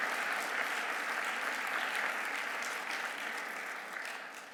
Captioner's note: audience applauding